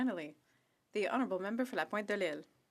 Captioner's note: speaking French